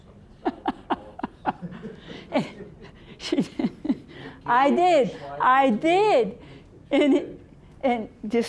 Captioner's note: laughing